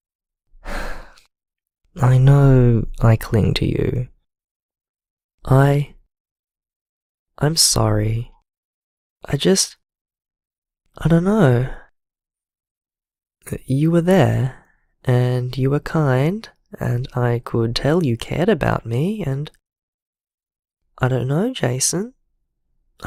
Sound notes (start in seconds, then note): 0.6 sigh